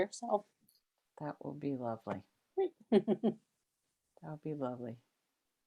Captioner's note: chuckles